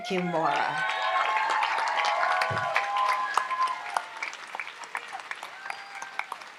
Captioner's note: audience applauds and cheers